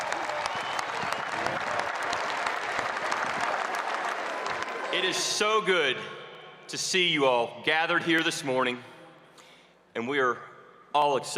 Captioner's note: cheers and applause